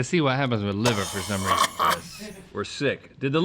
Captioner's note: gagging